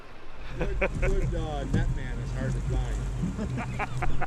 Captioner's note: laughs